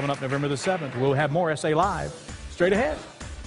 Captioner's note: applause